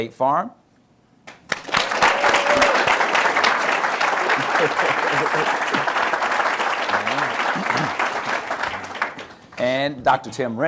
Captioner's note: applause